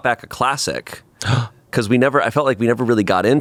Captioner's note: gasps